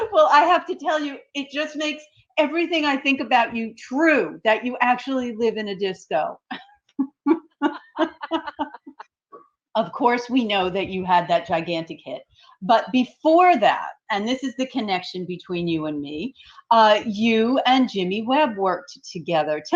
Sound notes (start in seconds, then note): 7.0 laughing